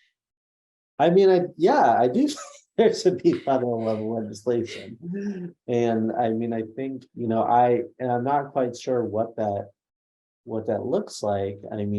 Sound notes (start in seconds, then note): 3.1 laughs